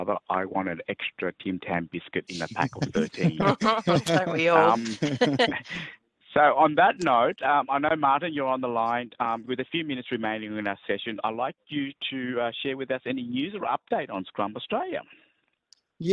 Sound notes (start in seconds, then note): 2.4 laughter